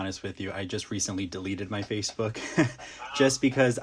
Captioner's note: laughs